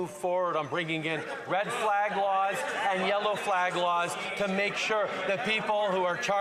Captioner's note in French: voix de l'interprète